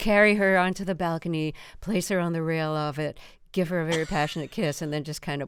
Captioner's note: laughter